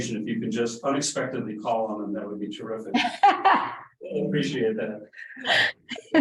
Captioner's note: laughter